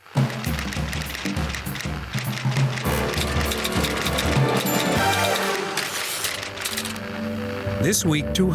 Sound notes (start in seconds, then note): 0.4 upbeat music; 0.5 keys clacking